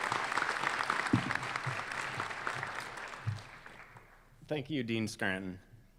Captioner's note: applause